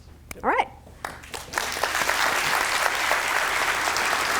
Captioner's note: applause